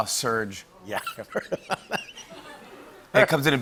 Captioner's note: laughing